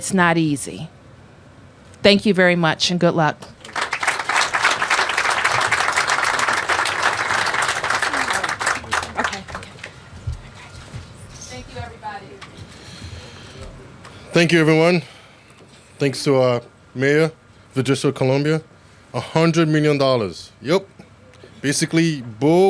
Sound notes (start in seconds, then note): 11.6 applause